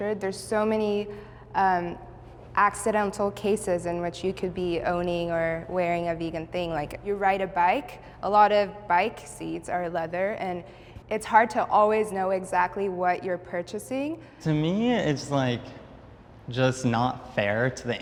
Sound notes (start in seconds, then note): none